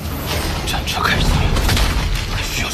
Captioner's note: the war chariot starts